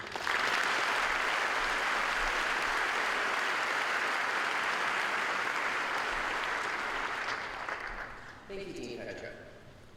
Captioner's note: applause